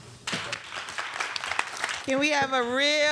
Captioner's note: audience clapping